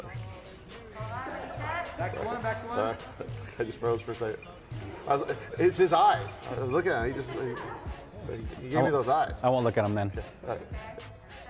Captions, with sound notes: - Oh, sorry. (both laughing) Sorry, sorry. - Back to one back to one. - Sorry, I just froze for a sec. It's his eyes, look at him. (crew laughing) He gave me those eyes. - I won't look at him then. - Okay, all right.